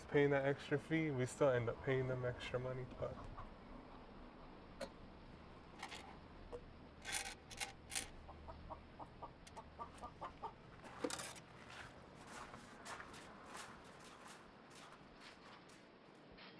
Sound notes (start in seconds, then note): 8.0 chickens clucking